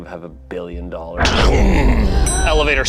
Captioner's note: imitates elevator thudding